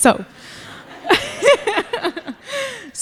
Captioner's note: laughing